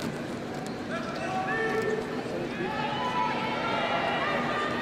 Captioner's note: crowd cheering